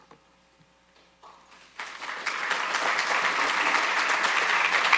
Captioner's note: audience applauding